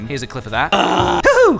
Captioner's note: drunk clown moaning noise